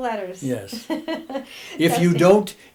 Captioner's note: laughing